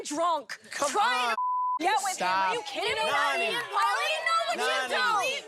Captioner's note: beep